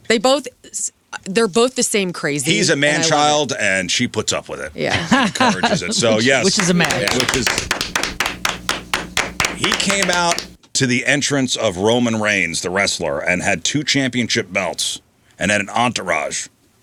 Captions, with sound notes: They both-- they're both the same crazy-- He's a man child, and she puts up with it. Yeah. [LAUGHTER] Which is a man. Which is-- [APPLAUSE] He came out to the entrance of Roman Reigns, the wrestler, and had two championship belts and an entourage.